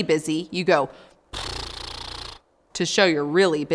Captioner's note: blows through lips